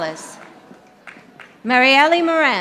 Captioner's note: audience applauding